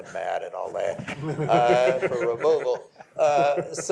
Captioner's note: laughter